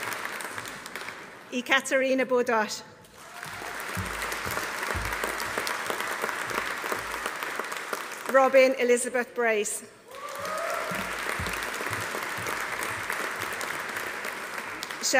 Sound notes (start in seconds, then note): 3.1 audience applauding; 3.1 audience cheering; 10.1 audience cheering; 10.1 audience applauding